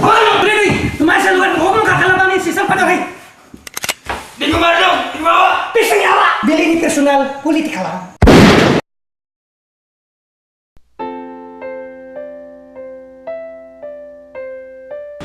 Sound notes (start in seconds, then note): 8.2 gunshot